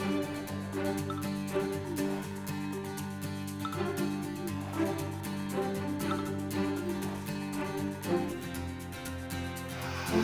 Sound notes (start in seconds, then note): 0.2 phone Beeping